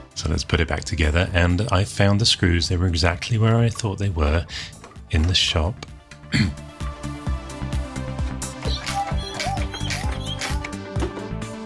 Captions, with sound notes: So let's put it back together and I found the screws. They were exactly where I thought they were. In the shop. (unscrewing noise)